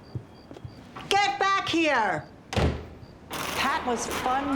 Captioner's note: door slams